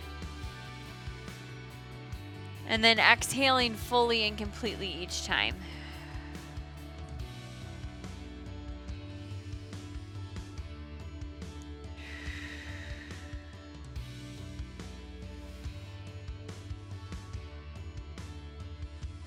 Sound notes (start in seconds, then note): 0.0 upbeat music continues; 12.0 exhales